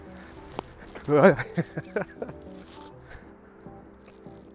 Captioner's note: laughs